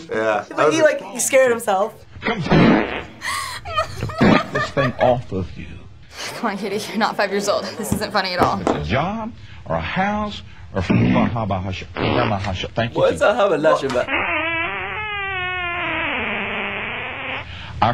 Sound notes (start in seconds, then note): 2.3 preacher farts twice; 11.9 farting, speaks in tongues; 13.8 preacher: squeaky, prolonged fart